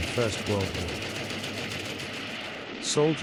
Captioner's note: machine gunfire